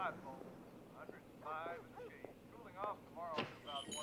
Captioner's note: man speaking indistinctly on radio